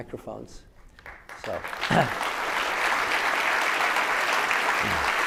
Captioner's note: audience applauding